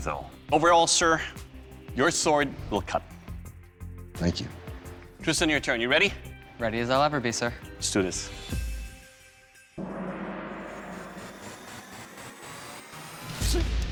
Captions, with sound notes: Overall, sir, your sword will cut. Thank you. Tristan, your turn. You ready? Ready as I'll ever be, sir. Let's do this. [gong] [rock music playing]